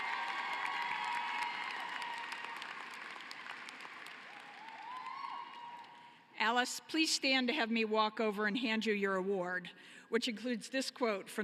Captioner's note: cheering and applause